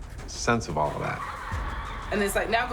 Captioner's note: echo of children laughing